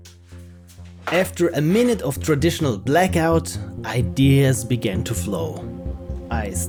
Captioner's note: narrating